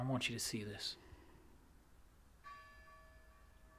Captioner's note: church bell ringing